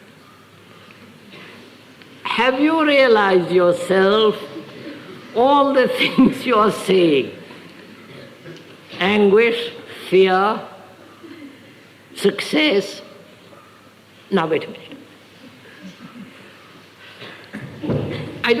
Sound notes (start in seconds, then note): 9.4 laughs